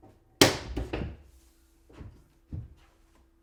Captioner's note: board snaps; palm pounds